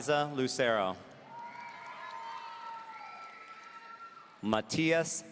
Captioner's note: audience cheering